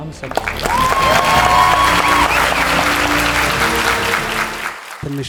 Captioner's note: scream and applause